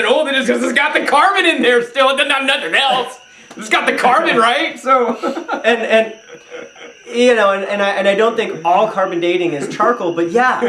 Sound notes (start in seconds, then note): 4.8 chuckles